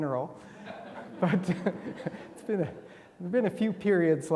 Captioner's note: attendees laughing